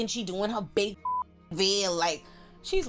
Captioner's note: beep